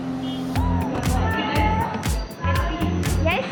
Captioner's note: in Armenian